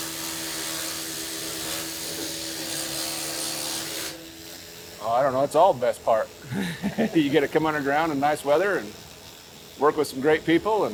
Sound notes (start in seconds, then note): 6.5 laughs